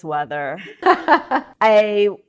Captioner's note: laughs